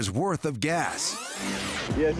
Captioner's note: rewinding